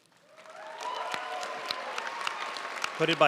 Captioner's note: audience cheering and applauding